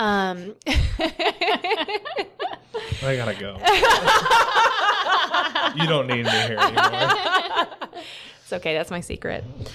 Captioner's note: creepy, self-deprecating laughter; laughter